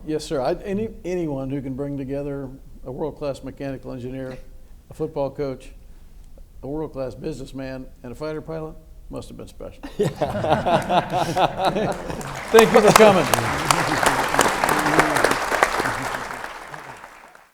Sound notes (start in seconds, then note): 9.8 everyone laughs; 13.8 audience claps